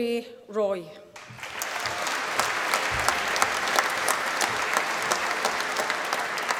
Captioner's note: applause